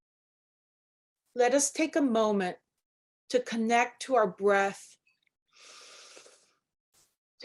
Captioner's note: inhaling